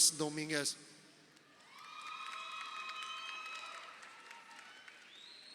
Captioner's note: crowd cheering